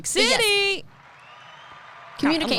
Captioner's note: crowd cheering